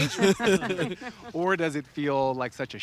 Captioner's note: all laughing